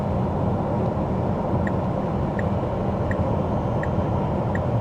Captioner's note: car engine